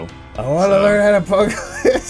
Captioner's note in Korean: 웃음